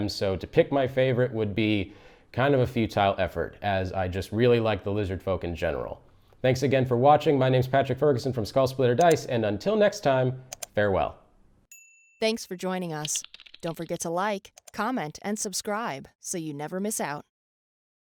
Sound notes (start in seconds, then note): 11.7 bell chiming